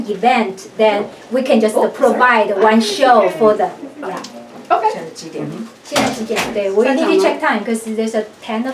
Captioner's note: speaks Chinese